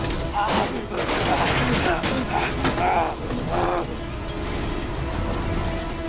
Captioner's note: panting